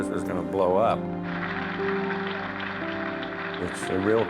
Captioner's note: applauding